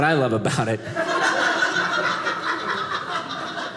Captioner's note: audience laughing